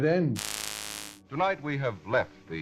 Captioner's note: static